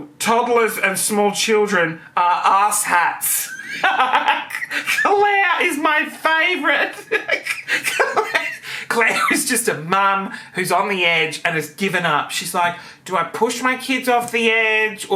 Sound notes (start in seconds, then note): 3.4 laughing